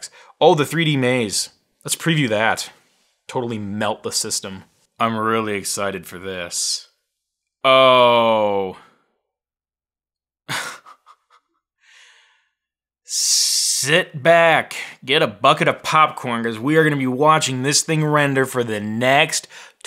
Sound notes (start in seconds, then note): 10.5 laughing